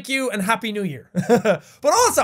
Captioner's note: laughs